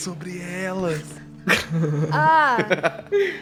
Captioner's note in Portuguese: Risadas